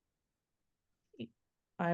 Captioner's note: silent pause